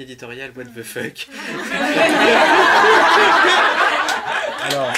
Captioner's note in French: rires